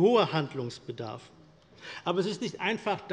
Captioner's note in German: none